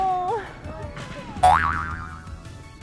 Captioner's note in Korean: 철퍼덕